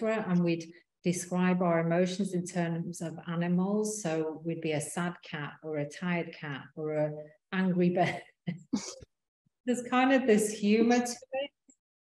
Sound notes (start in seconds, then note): 8.4 laughing